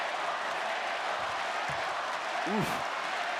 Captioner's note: applause